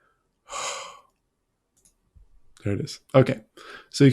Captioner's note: heavy sigh